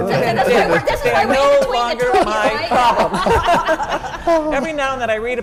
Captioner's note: laugh